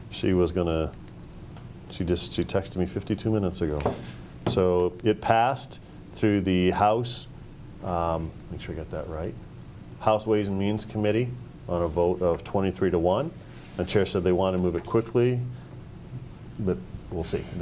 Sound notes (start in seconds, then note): none